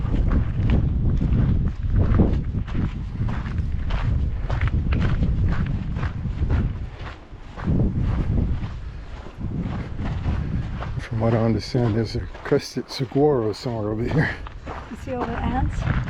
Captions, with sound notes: (wind blowing) From what I understand, there's a Crested Saguaro somewhere over here. You see all the ants?